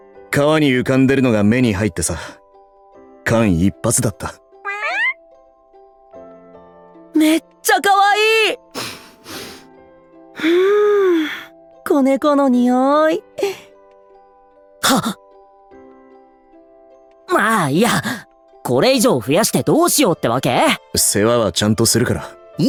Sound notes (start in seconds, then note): 8.7 sniff Sniff